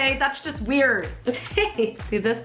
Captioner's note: nervous laughing